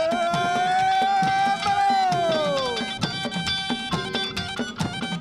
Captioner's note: man shouting in Indonesian